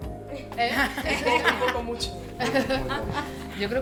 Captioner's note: laughs